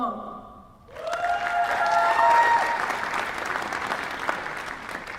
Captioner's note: applause